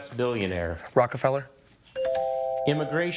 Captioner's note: scoreboard dings